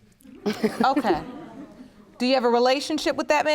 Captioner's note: laughs